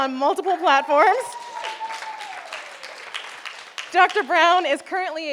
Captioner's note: audience applauding